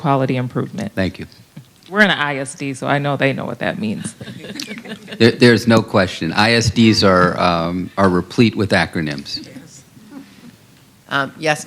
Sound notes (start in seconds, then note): 4.0 laughter